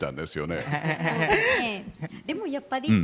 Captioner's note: laughs